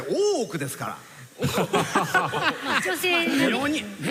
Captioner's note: laughter